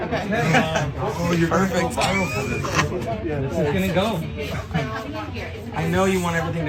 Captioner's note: laugh